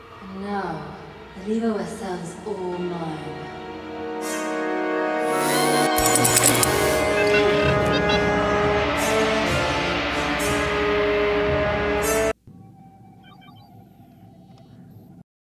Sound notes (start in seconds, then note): 3.0 ominous music; 5.2 electronic humming; 5.9 handcuffs clinking; 6.9 robot beeping; 8.1 ominous music